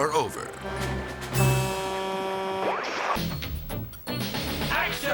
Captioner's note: horn honking